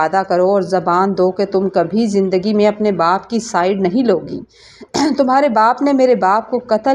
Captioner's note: clears throat